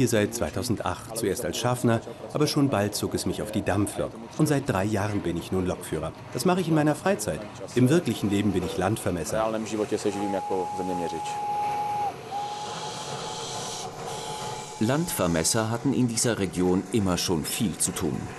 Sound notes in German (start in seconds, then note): 9.7 Zugpfeifen